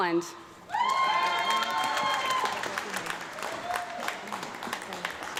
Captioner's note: audience clapping and yelling